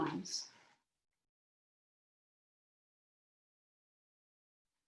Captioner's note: silence